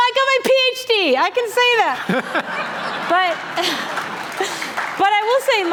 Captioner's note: laughter